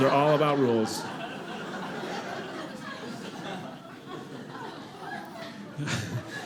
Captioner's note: audience laughing